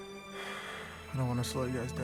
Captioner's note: sighs